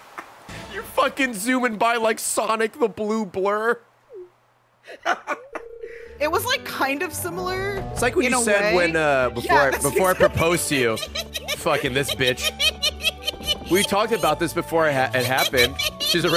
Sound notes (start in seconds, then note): 4.8 laughs; 12.6 laughing